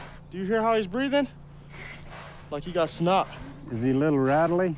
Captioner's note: huffing with difficulty